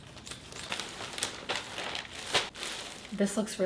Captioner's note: package rustling